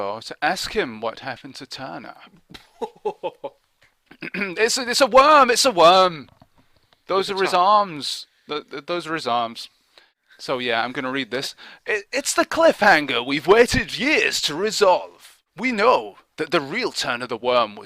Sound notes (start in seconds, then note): 4.1 clears throat